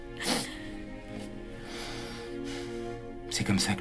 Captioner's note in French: Soupir